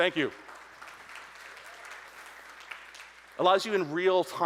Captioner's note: audience applauding